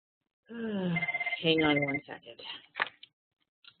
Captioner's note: phone ringing